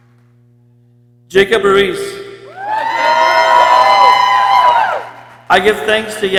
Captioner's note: people cheering